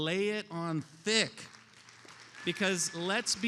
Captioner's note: attendees applauding